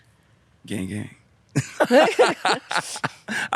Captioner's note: both laughing